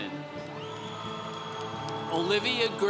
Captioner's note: congregation cheering